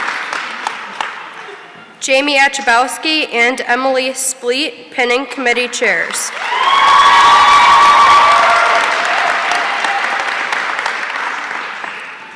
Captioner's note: applause